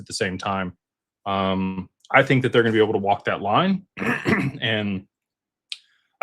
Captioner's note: clears throat